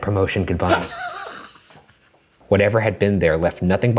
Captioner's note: laughs